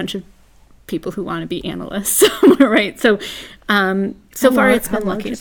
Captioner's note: laugh